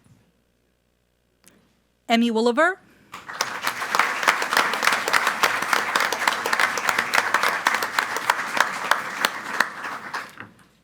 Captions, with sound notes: - Emmy Woolever. (group applauding)